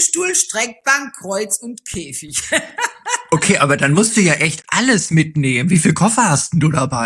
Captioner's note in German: gelächter